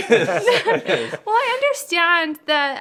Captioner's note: laughing